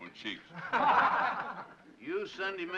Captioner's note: laughter